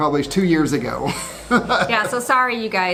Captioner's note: laughing